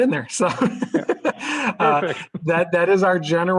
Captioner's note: laughter